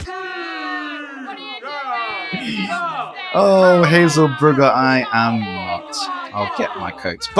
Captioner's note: crowd booing